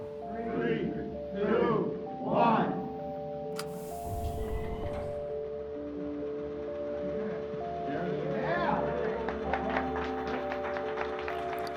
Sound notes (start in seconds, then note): 3.5 mechanical whirring; 8.7 cheering, applause